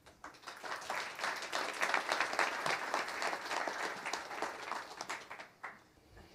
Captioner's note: applause